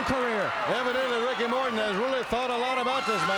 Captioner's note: crowd cheering